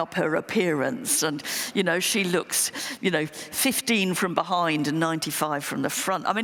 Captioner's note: none